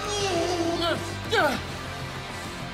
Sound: cries out; grunts

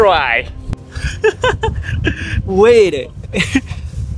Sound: nervous laughter

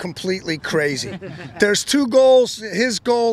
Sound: crowd laughing

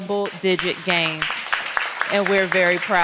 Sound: applause

